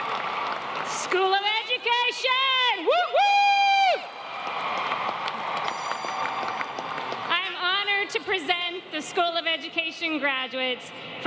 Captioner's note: applause